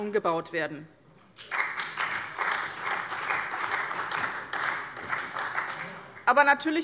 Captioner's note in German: Beifall bei dem BÜNDNIS 90/ DIE GRÜNEN und der CDU